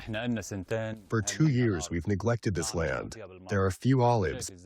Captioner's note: through translator